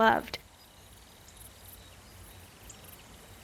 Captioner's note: birds chirping